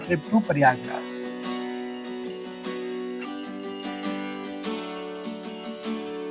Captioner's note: bell ringing